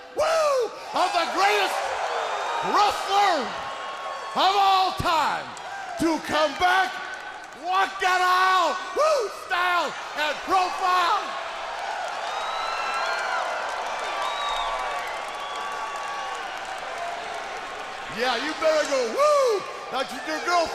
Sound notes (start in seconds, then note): 11.6 crowd cheering